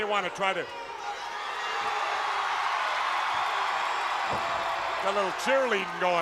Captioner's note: crowd cheering